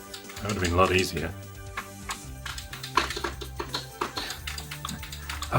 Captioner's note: keyboard and Joystick Clicking